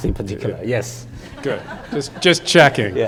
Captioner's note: audience laughing